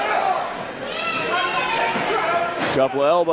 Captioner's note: crowd murmurs